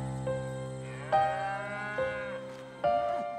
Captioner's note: cows mooing